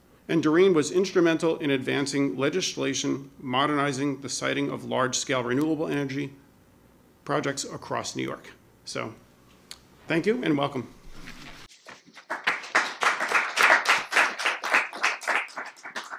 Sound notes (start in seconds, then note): 11.8 applause